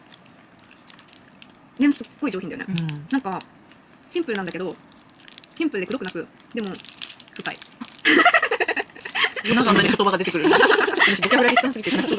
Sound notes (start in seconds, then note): 8.0 bursts out laughing